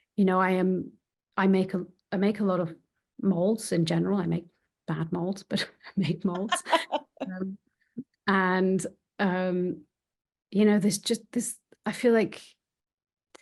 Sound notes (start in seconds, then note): 6.3 laughing; 6.3 chuckling